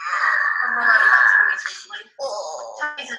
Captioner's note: child moaning